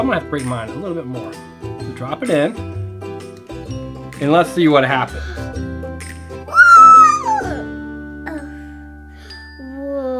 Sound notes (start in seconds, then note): 6.4 cheers